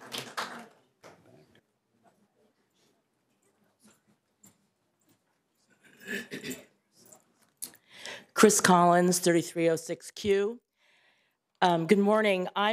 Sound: applause

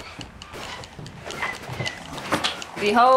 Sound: footsteps falling; door squeaking

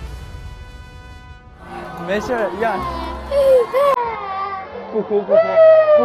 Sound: crying out loud

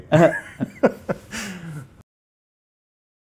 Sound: laughing

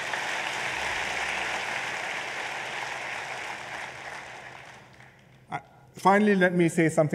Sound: applause

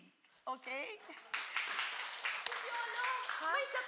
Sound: applauding

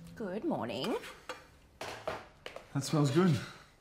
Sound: pans clanking

